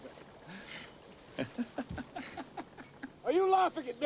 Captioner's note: laughs